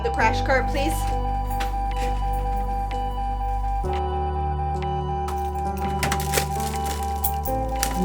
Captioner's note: heart monitor beeps